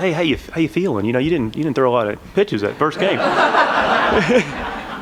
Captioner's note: laughter